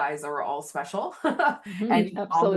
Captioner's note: laughs